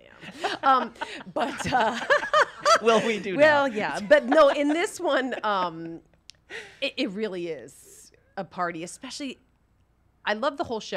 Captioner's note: laughs